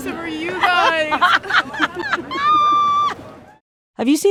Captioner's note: laughter